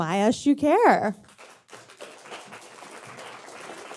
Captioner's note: audience clapping